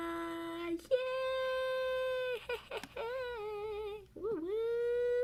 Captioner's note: +singsong voice+